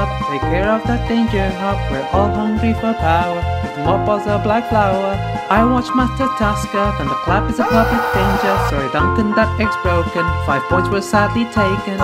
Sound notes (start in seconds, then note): 8.4 he yells